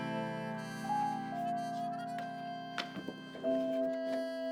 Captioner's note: papers rustling